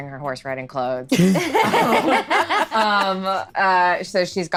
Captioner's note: laughing